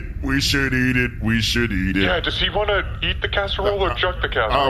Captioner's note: whispering